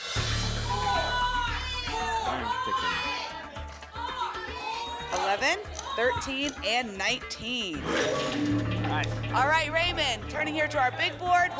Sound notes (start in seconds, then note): 0.5 audience shouting numbers; 7.8 lock sound